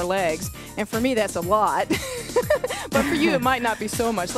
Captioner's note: laughs